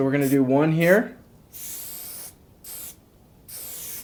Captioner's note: spritzing